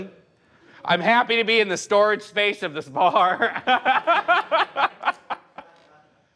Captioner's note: laughs